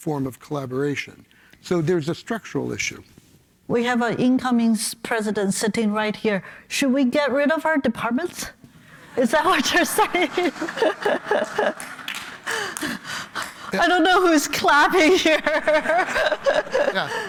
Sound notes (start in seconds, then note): 9.6 laughter; 15.2 laughs